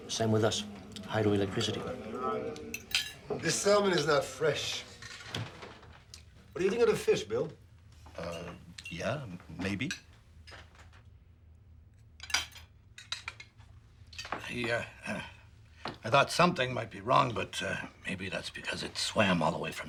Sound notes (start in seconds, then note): 12.2 silverware clinks